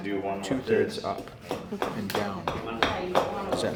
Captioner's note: axe thumps